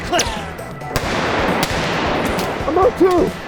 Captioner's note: guns popping